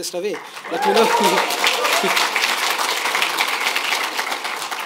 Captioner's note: audience applauding